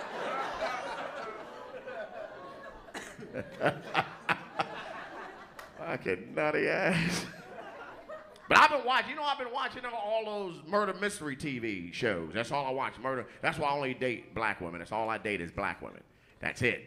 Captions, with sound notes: [ LAUGHTER ] FUCKING NUTTY ASS. I'VE BEEN WATCHING ALL THOSE MURDER MYSTERY TV SHOWS. THAT'S ALL I WATCH. THAT'S WHY I ONLY DATE BLACK WOMEN. THAT'S ALL I DATE IS BLACK WOMEN.